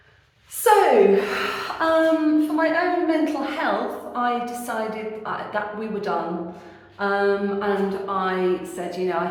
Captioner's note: deep sigh